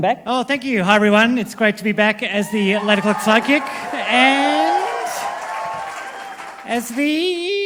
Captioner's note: applause